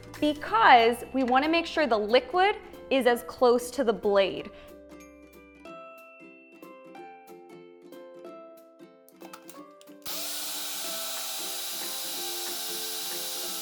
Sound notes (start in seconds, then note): 5.0 cheerful music; 10.0 blender whirs